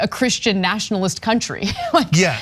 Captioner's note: laugh